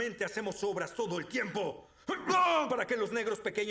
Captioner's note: yelling